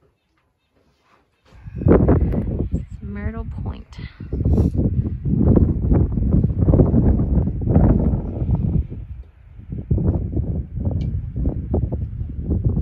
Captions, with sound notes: Myrtle Point *wind blowing*